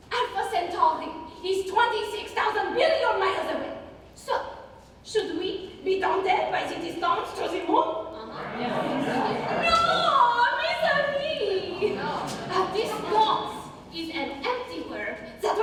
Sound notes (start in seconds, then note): 8.1 ensemble murmurs